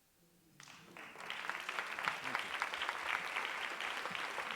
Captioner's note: audience applauding